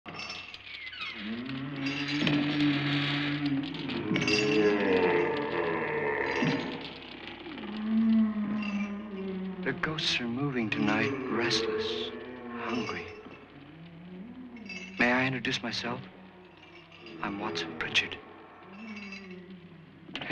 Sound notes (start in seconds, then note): 0.8 chains rattling; 0.8 door creaks; 2.4 ghastly moaning and footsteps